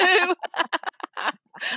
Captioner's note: laughs